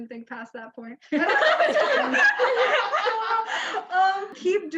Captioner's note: laughs loudly